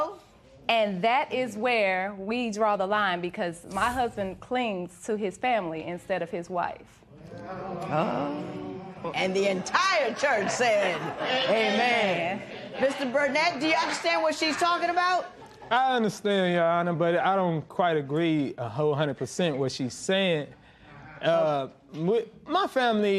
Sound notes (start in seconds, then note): 7.6 spectators murmur